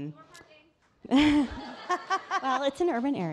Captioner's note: audience laughing